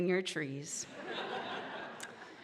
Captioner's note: audience laughing